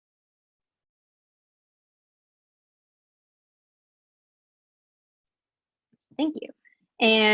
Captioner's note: silence